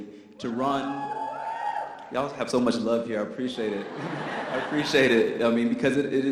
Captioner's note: cheers from audience